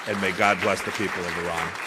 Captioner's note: applause